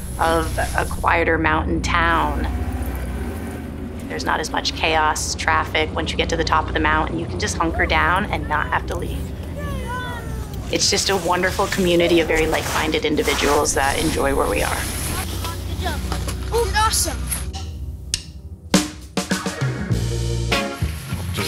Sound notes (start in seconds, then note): 9.9 family chatter; 18.7 modern upbeat music